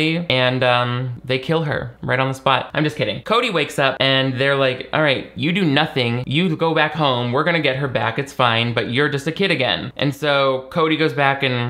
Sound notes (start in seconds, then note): none